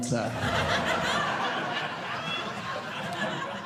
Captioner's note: audience laughing